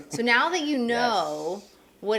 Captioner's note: laughing